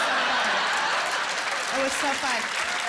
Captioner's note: applause